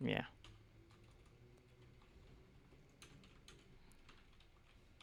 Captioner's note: typing